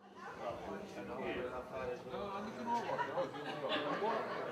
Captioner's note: indistinct chatter